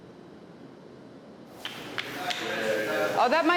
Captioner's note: clapping